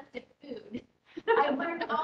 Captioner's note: nurses laughing